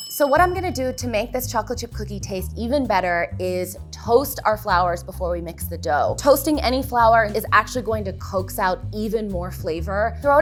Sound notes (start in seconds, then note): none